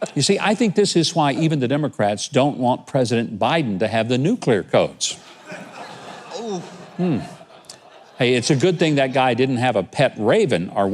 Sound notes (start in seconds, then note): 5.2 audience laughing